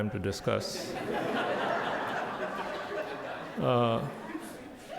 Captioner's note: audience laughs